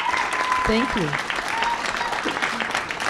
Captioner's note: applause